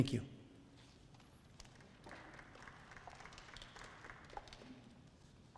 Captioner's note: audience applauds